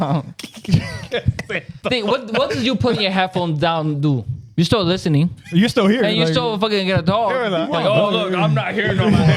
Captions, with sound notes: (Laughing) What did you put in your headphones down to? You still listening? You're still here. You still fucking get a dog. Oh look, I'm not here no more.